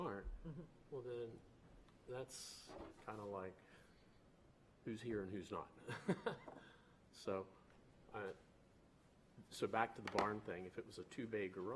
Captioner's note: laughter